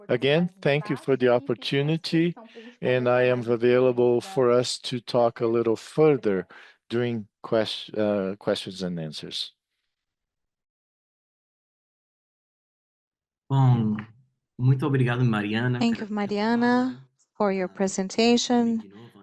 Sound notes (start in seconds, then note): 13.9 speaking in Portuguese